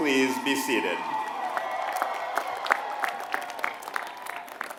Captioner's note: applause